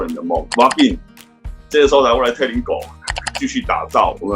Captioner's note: Taiwanese